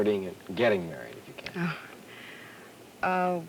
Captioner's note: gasp